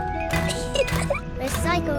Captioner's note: giggles